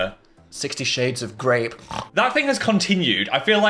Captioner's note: snorts